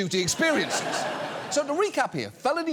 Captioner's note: audience laughs